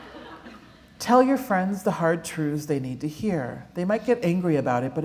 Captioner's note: laughter